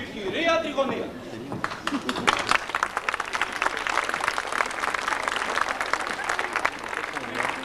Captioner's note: Χειροκροτήματα